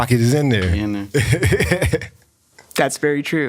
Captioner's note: laughs